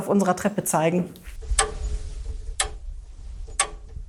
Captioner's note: ticking